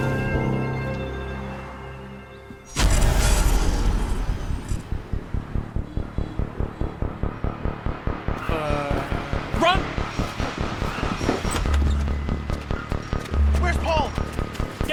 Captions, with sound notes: (whoosh) (foreboding electronic music) - Uh. - Run! - Where's Paul?